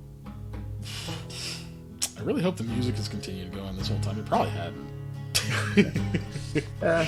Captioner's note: laughs